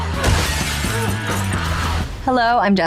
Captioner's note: intense rock music; glass shattering